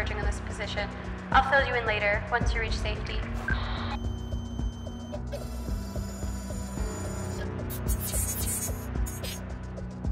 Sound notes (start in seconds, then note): 3.7 radio bleep and static; 7.3 robotic sounds